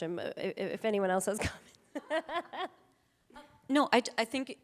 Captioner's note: laughing